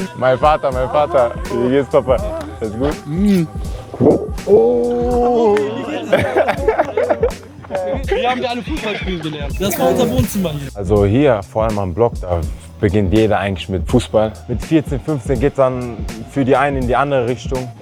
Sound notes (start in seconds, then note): 2.8 kissing sound; 6.0 joyful laughter